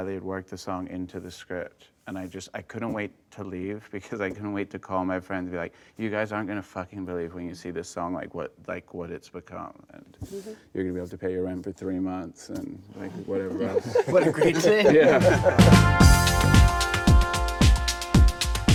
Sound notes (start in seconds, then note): 15.2 laughing; 16.0 upbeat music